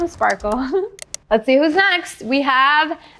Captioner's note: chuckling